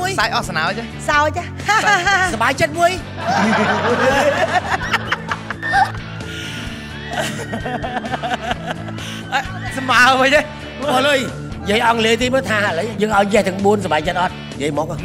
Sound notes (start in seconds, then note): 3.2 laughter